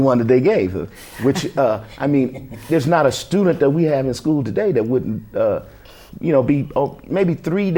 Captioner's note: laughter